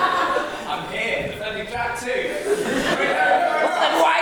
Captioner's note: audience laughs